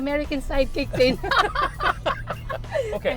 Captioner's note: laughter